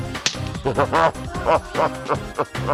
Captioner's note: laughs